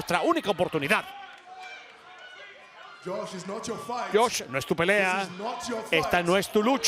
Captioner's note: applause